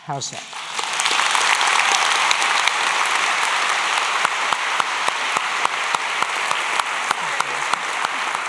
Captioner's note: applause